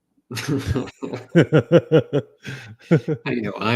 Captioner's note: laughs